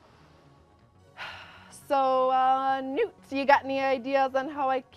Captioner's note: sighs